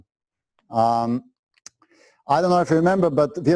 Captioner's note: pause